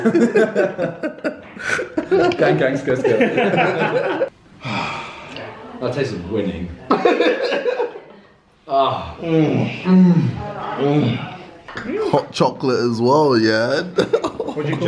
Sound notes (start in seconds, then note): 0.0 laughing; 6.9 laughing